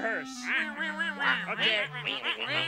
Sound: penguins exclaiming

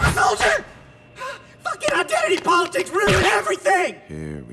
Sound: exhales

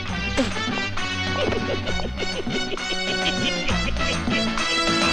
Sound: laughs

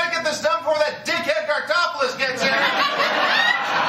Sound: laughter

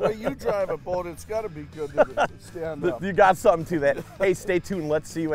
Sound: laughing

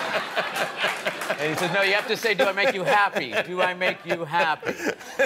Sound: laughter

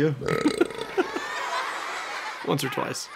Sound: epic bupr

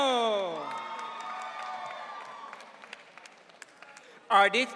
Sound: audience cheering

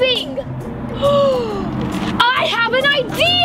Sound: gasps loudly

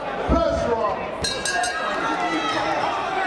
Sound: crowd cheering; bell ringing

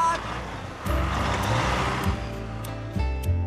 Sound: engines Rumbling

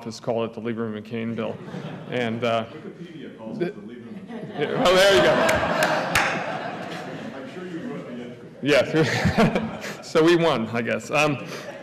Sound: laughter

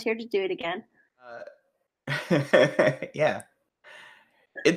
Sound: laughs

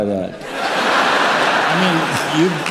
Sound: laughter

